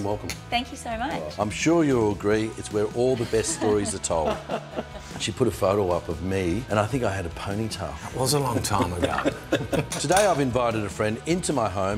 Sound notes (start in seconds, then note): 3.2 laughs; 8.1 laughing